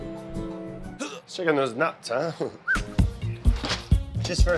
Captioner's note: whistles